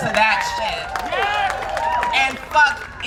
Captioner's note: crowd cheering and applauding